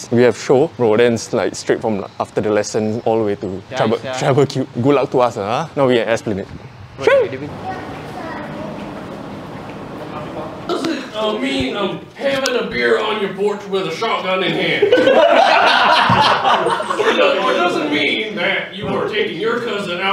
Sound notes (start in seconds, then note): 14.5 laughs